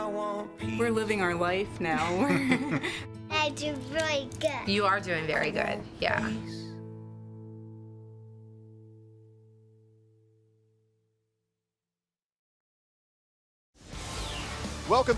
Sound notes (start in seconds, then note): 2.0 laughter